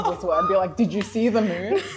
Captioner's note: laughs